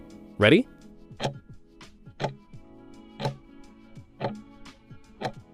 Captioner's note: timer ticking